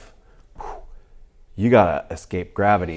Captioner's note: rapid whooshing